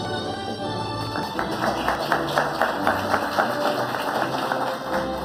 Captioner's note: audience applauding